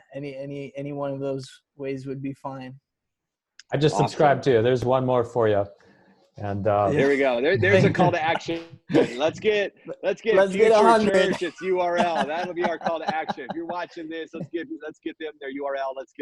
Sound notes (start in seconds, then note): 7.5 chuckling; 12.2 laughing